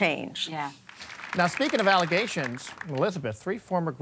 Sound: applause

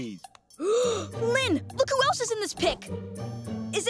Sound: gasps

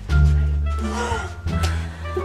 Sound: gasp

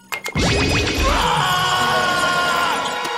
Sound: screaming

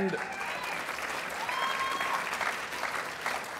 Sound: applause

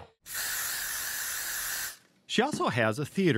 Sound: spray hissing

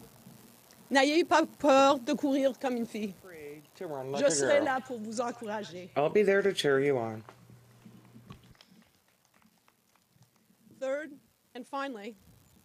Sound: speaking French

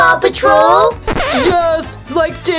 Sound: record scratching

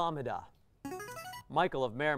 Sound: player buzzer

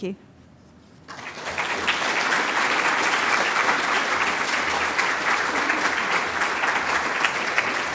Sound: audience applause

